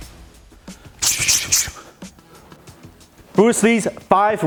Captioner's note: rhythmic breathing